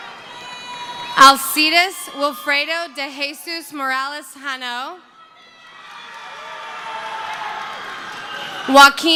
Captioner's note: cheering